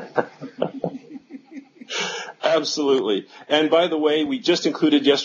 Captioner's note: laughter